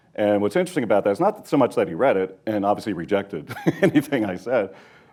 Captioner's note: laughs